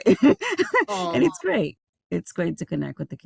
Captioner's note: laughing